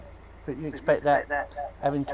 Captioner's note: phone ringing